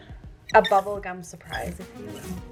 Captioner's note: roller squeaking